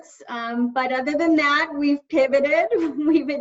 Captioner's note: chuckles lightly